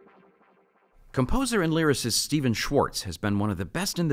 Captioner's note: voiceover